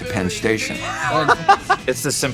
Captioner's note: man laughing